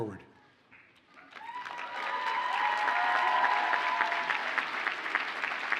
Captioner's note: audience cheers and applauds